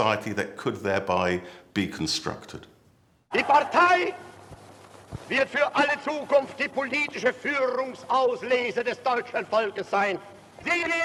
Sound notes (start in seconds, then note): 3.1 speaking German